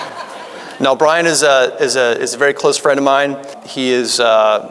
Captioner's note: audience laughing